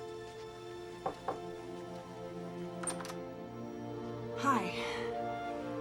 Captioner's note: door knocking